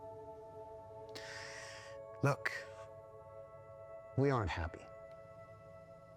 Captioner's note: inhales